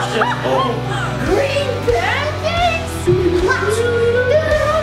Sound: gasps; humming an Irish jig

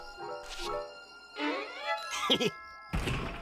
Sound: cackles

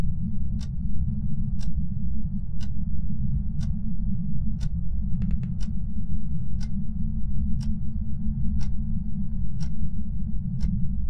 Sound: tick

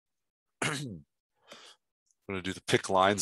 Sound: clearing throat

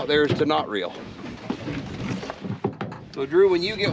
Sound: clattering

